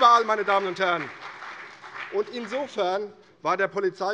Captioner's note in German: Beifall CDU